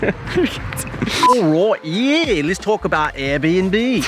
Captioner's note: marker beep